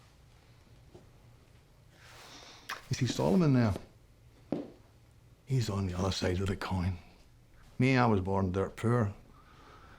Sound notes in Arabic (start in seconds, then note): 2.6 لهجة اسكتلندية